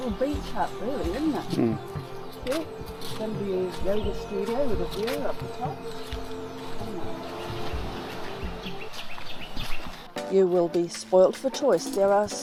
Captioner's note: speaking Indonesian